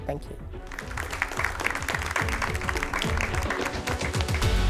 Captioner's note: audience applauds; uplifting music